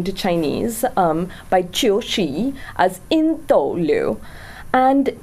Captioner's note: speaks in foreign language